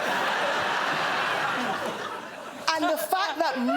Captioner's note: laughter